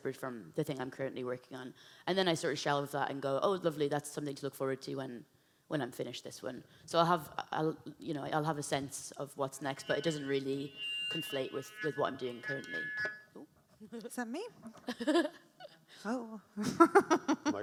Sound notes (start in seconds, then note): 9.3 speaker screeches; 13.7 laughs